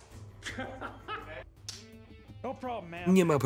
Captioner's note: laughter